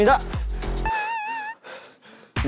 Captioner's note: breathing in & breathing out